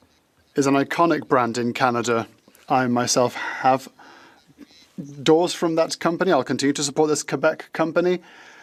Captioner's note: speaking French